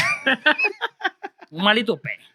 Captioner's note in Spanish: Riendo; Hablando en idioma extranjero